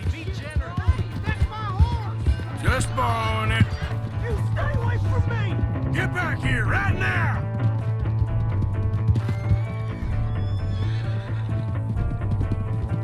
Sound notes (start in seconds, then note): 9.2 horse whines